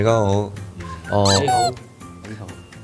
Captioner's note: in Cantonese